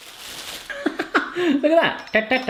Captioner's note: laughs